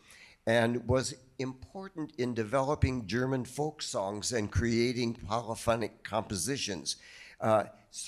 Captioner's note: none